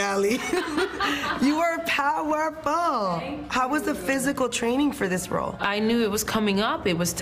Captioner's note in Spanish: habla en ingés